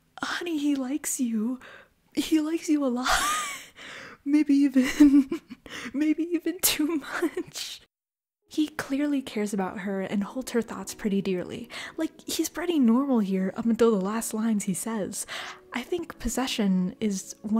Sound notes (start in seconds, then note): 4.8 laugh